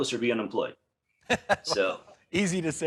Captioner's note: laughing